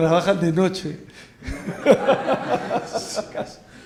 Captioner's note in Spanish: risas